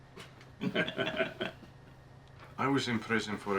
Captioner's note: group laughing